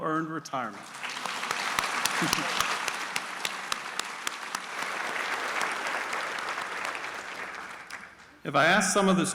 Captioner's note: applause